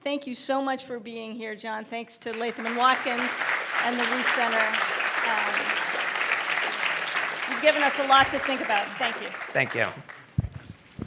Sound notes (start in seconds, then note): 4.7 applause